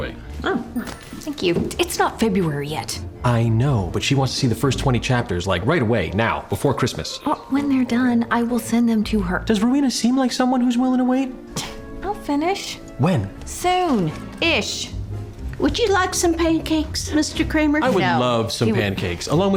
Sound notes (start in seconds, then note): 11.4 scoffs